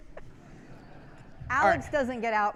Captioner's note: people laughing